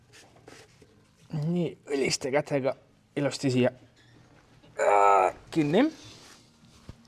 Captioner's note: grunt